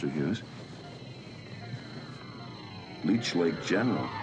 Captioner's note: murmuring